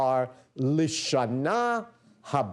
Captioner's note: non-english speech